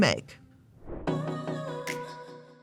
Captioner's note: air whooshing; upbeat music